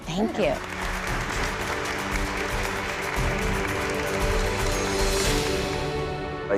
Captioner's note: applause